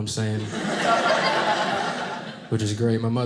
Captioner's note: audience laughing